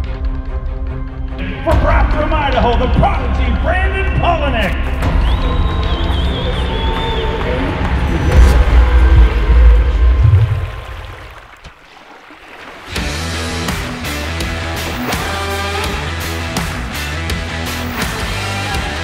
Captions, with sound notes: from Rathdrum, Idaho the prodigy Brandon Palaniuk. (Crowd Cheering)